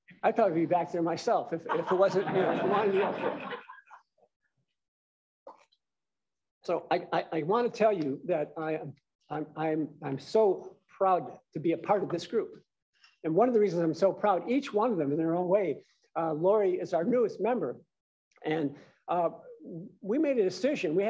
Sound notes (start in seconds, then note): 3.3 laughter